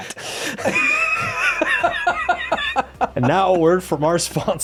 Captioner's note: both laughing